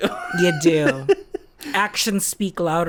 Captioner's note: laughs